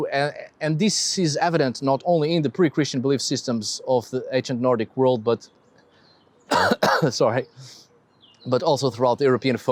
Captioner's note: coughs